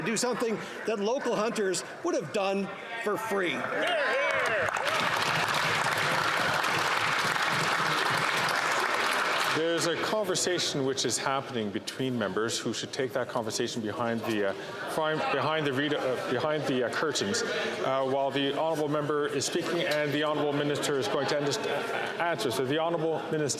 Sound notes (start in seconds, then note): 9.9 some Applause